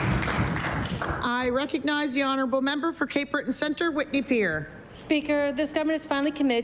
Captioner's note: applause